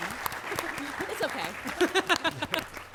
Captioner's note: laughs